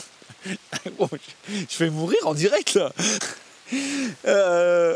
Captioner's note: coughs